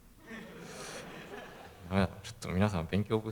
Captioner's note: laugh